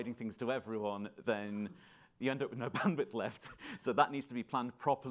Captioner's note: laughing